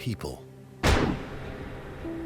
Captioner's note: gunshot